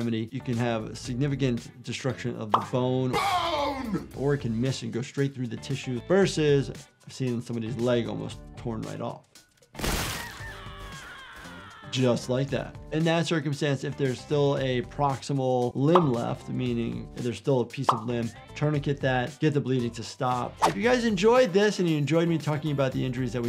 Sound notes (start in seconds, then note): 9.8 gunshot fired; 10.1 character screaming